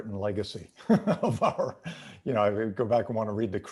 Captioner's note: laughing